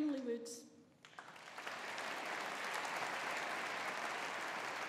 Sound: audience applauding

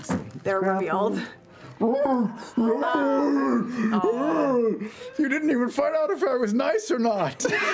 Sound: troll noises

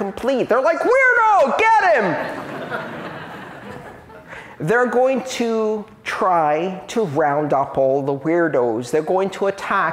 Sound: laughter

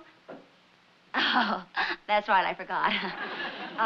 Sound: chuckles

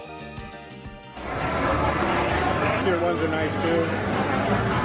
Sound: crowd murmuring

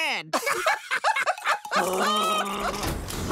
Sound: laughing; growling

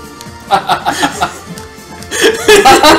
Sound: laughs; laugh

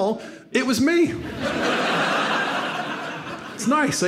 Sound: audience laughs

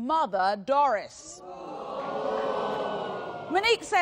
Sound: audience gaspimg

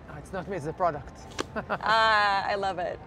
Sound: laughter

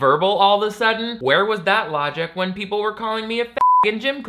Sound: beep

